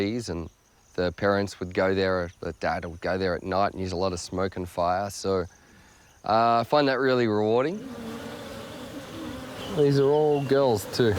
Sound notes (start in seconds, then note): 7.0 buzzing